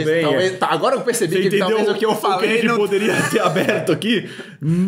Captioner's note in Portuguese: risos